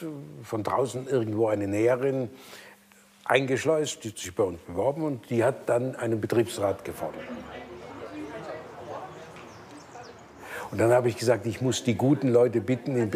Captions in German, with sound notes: von draußen irgendwo eine Näherin eingeschleust, die hat sich bei uns beworben, und die hat dann einen Betriebsrat gefordert. (Stimmengewirr) Und dann hab ich gesagt, ich muss die guten Leute bitten,